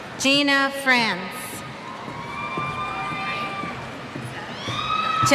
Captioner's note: cheers